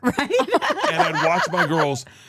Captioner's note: laughs